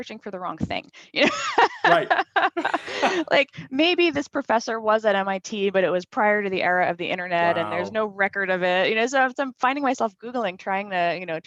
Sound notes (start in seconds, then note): 1.3 laughs